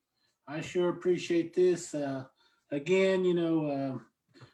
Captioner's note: speaks an indigenous language